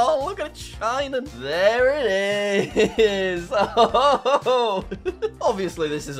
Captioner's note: chuckles